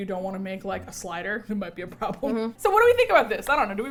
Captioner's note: laughs